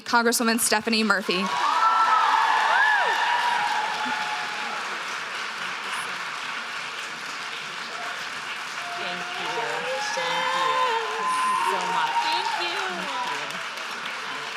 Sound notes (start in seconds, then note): 1.4 audience cheers loudly